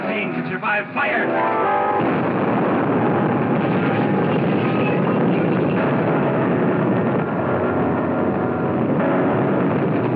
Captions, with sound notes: but nothing can survive fire. [explosion]